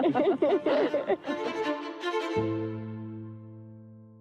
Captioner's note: women laugh